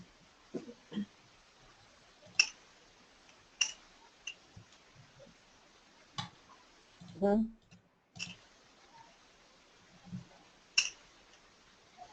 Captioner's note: silence